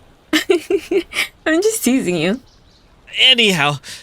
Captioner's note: laughs